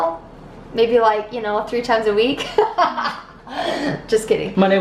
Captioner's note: laughing